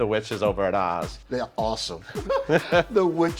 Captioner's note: laughing happily